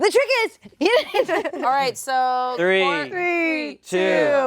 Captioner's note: laughs